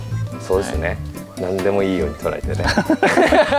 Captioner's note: laughs